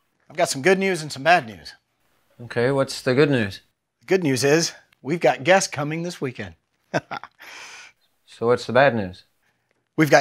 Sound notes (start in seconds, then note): 6.9 Matteo chuckles